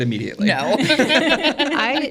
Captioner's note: everybody laughs